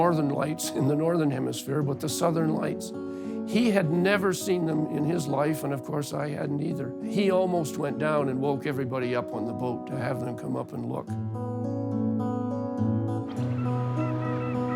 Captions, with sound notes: but the Southern Lights. He had never seen them in his life, and of course, I hadn't either. He almost went down and woke everybody up on the boat to have them come up and look. -[tranquil music continues] -[birds calling]